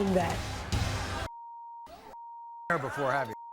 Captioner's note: beeping